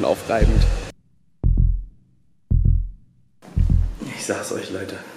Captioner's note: heartbeats